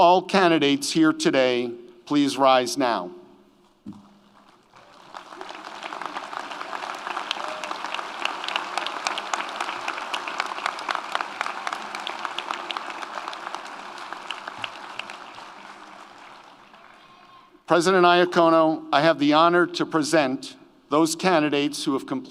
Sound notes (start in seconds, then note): 5.4 audience applauds; 5.4 audience cheers